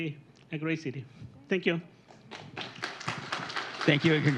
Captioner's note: applause